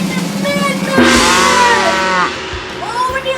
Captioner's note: cymbol crash; cow mooing